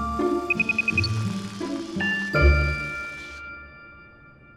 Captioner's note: beeping